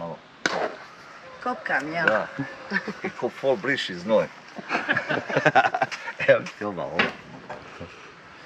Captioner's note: laughs